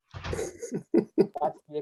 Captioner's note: laughing